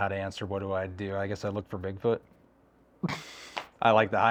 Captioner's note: laughing